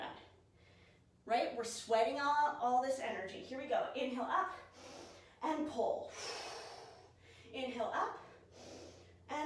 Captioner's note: exhale